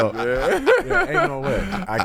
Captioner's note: laughing